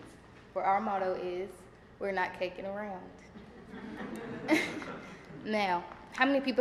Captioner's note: laughter